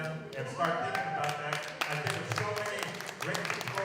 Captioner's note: cheering and applause